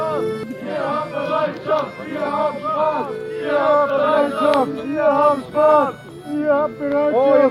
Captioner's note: people chanting